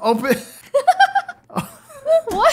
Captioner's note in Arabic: تضحك